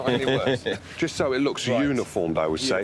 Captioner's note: laughs